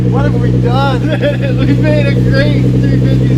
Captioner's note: laughing